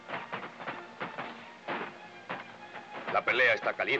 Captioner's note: guns blasting in distance